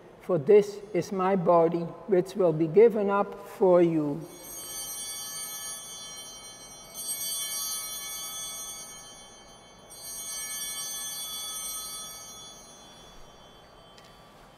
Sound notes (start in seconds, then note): 4.2 bells ringing